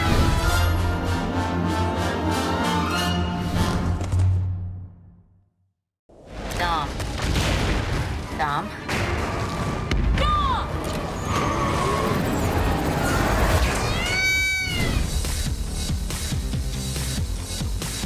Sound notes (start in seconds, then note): 0.1 triumphant music; 10.4 intense music; 14.0 bird squawking; 15.0 upbeat rock music